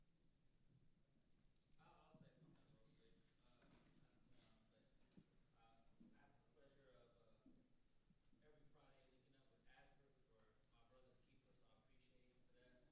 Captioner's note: audience member speaking quietly